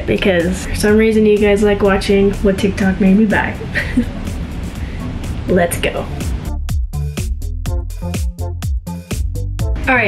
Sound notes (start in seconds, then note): 3.6 chuckles; 6.8 upbeat techno music